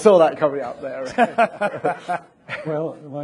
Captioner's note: people laughing